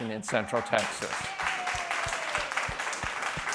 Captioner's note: applause